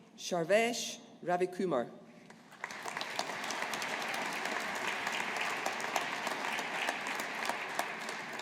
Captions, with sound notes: Sharvesh Ravikumar. (AUDIENCE APPLAUDING)